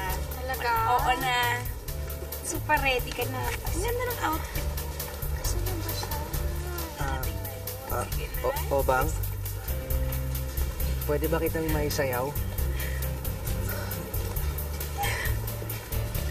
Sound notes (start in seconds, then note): 7.8 stutters; 13.0 giggles